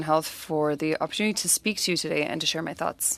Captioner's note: speaking French